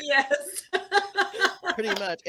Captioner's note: laughing